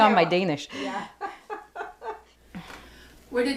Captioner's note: laughs